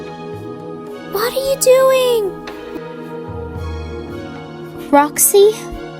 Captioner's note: whispers